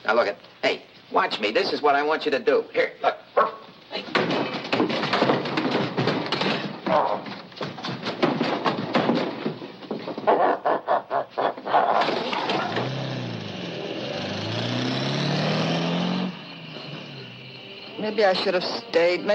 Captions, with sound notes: - Now look it, hey watch me, this is what I want you to do. Here, look, ruff! (Willie thudding) (engine rumbles) - Maybe I should have stayed,